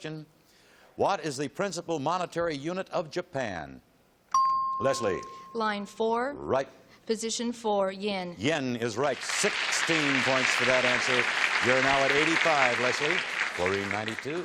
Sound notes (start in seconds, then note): 4.3 ping